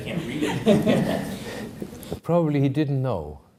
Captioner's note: audience laughing